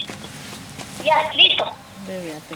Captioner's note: voice on the phone